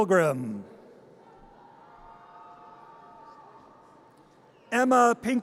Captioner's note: audience cheers